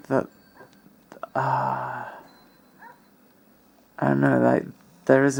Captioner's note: satisfied ahhh